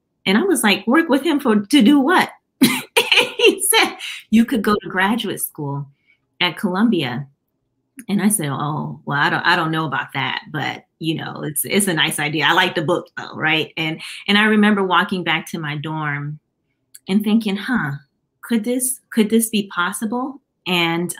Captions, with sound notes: And I was like, "Work with him to do what?" [LAUGHTER] He said, "You could go to graduate school at Columbia," and I said, "Well, I don't know about that, but it's a nice idea. I like the book though." And I remember walking back to my dorm and thinking, could this be possible?